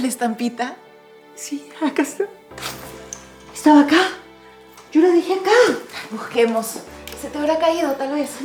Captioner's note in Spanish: risas